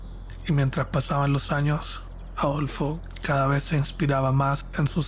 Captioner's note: narrator speaking Spanish